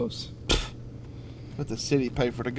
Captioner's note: scoffing